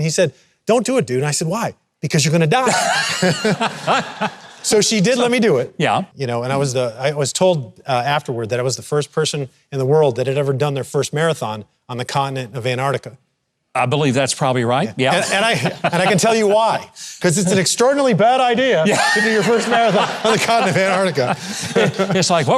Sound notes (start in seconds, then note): 2.6 both laughing